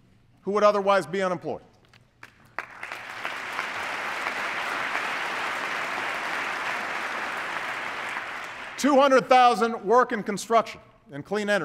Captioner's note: applause